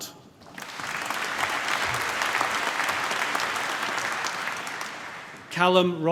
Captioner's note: applause